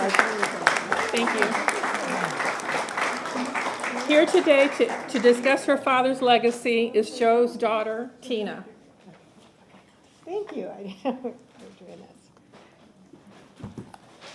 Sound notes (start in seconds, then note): 3.4 applause